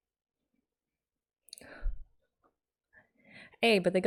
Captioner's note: breathes